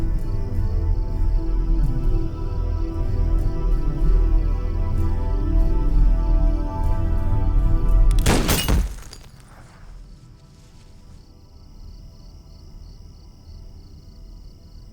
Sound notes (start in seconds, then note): 8.1 gunshot; 8.1 glass shatters